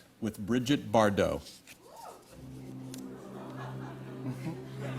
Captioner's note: laughter